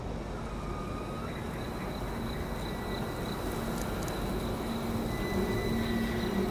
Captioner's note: wind turbine squeaking in background